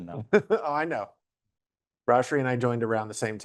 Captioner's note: laughing